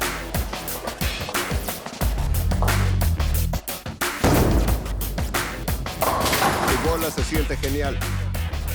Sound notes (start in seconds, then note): 7.4 pins clattering